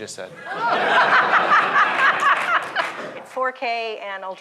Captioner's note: laughter